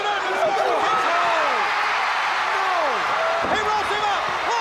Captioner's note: crowd cheering